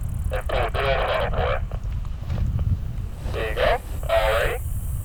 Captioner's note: interference drowns out radio